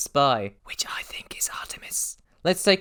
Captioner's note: whispered